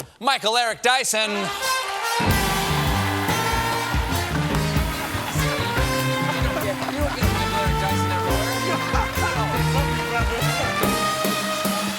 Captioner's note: applause